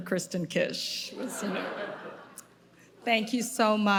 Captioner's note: audience laughing